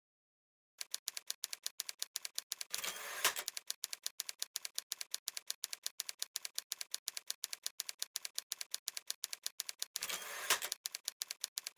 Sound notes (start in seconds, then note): 0.8 type Writer Clicks